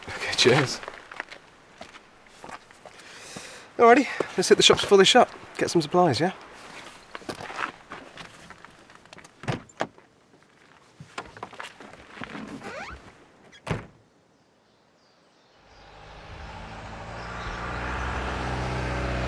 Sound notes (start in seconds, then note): 13.6 closes door; 14.4 birds chirping; 15.6 van motor revving